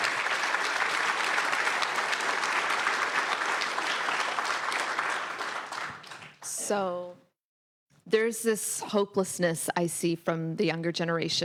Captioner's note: applause